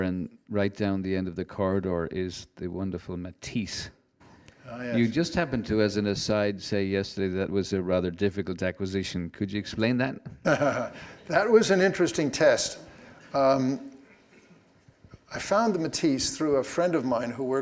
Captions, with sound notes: and right down the end of the corridor is the wonderful Matisse. - Oh yes. - You just happened to, as an aside, say yesterday, that was a rather difficult acquisition. Could you explain that? - (chuckles) That was an interesting test. I found the Matisse through a friend of mine